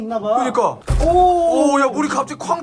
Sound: bang

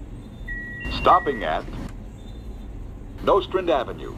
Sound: alerter beeping

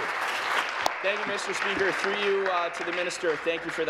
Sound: voice trailing; applause

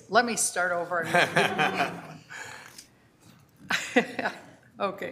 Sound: people laugh

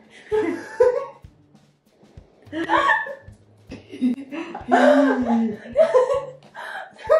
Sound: laugh; wheezing

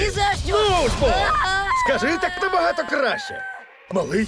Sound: Orion screaming

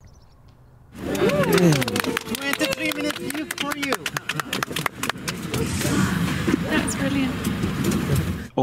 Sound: cheering

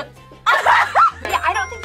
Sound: shrieking

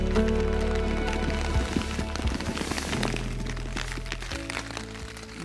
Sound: light rain on tent

